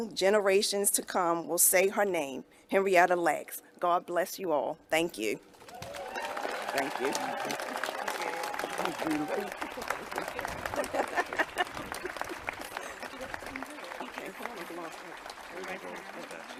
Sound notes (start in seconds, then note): 9.7 clapping and cheering